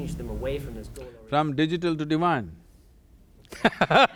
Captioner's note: laughs